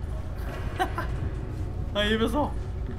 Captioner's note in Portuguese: risos